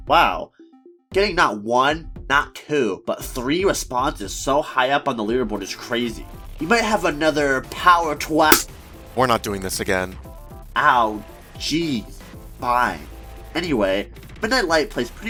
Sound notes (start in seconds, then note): 8.5 slap SFX